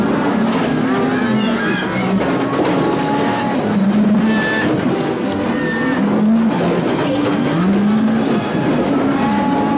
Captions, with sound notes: Hoppy! Hoppy! [ THUNDER ]